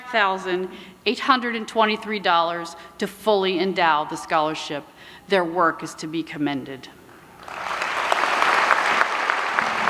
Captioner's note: applause